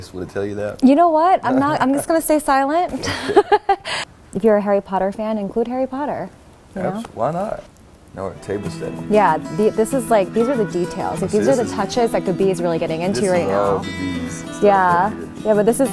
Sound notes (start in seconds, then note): 12.6 murmurs